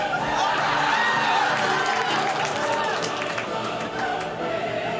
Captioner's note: audience laughs